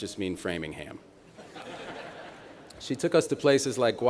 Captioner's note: laughter